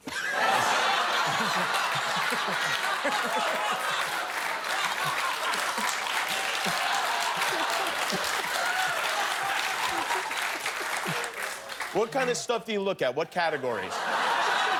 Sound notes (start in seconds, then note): 1.9 laughter; 10.2 cheers and applause